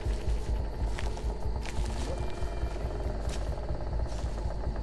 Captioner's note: leaves crunching